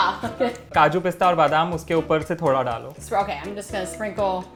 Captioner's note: speaking in Hindi